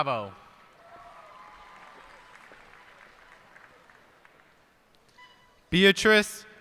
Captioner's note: cheers and applause